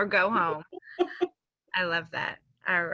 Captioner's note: laughs